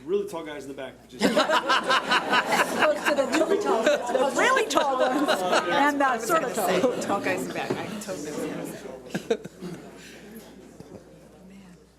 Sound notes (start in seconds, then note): 1.2 audience laughs